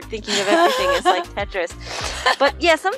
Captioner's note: laughing